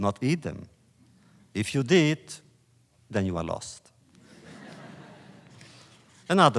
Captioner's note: laughter